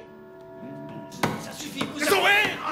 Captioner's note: pounding